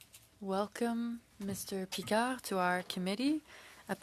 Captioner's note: speaking French